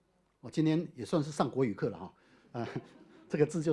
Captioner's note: audience laughter